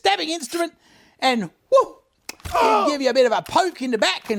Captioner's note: man groans